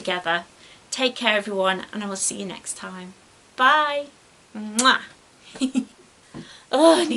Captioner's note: giggles